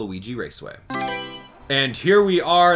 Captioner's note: Mario Selection Sound